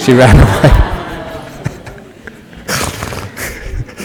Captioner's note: laughter